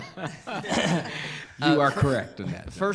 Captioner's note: laughing